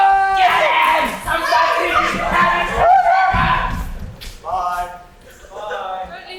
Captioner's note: shouting as characters run offstage